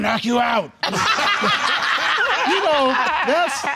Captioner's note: deep voice; all laugh